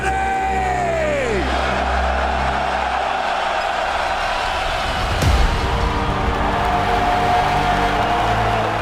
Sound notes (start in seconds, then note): 1.0 crowd cheering; 5.1 upbeat music